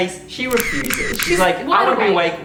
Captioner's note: camera shuttering